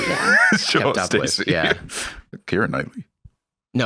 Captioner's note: laughing